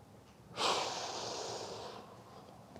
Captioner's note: exhales